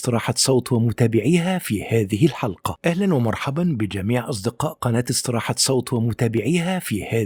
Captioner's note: arabic VO